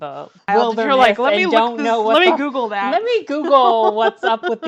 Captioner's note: laughs